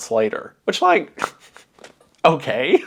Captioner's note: laughs